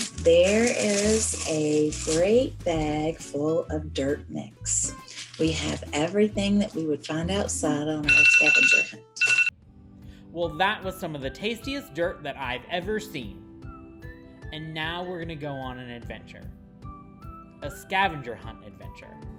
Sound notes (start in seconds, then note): 9.2 alarm buzzer